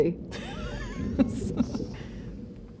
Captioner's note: laughs